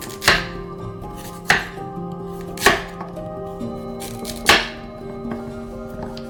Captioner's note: knife thuds